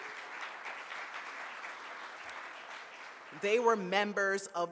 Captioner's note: audience applauds